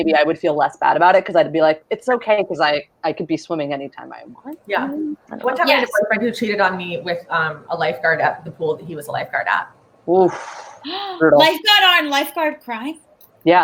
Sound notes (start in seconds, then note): 10.7 gasps